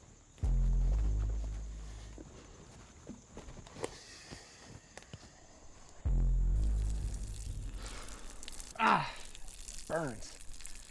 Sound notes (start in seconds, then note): 5.5 urinating